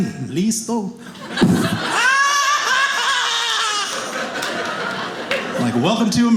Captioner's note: yelling